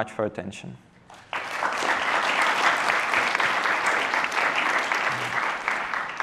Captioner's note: applause